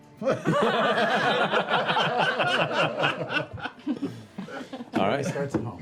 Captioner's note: laughter